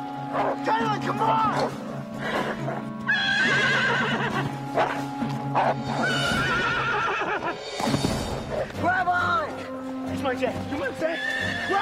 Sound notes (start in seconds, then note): 2.1 horse neighs; 3.9 wolf growling